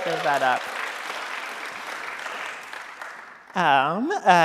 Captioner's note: audience applauding